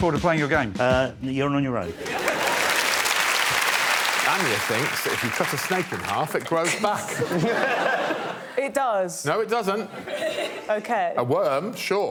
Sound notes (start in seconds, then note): 4.3 applause